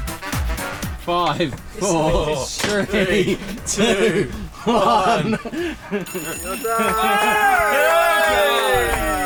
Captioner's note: all cheer